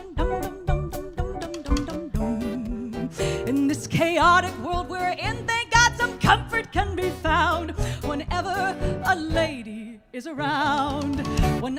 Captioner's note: humming